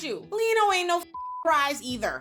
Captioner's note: beep